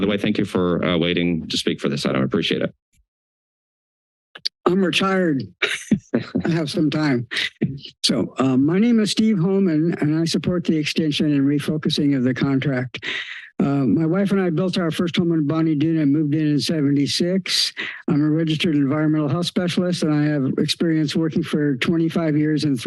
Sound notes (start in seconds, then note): 5.6 chuckles